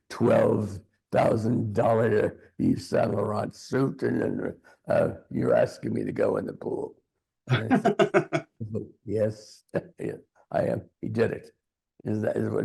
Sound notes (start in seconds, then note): 7.5 laughing